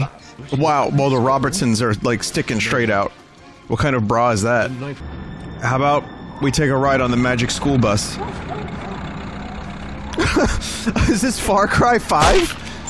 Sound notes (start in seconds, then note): 10.1 laughs